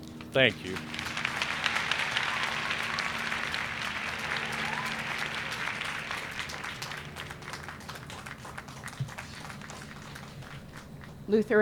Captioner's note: applause